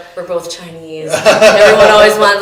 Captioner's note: laughing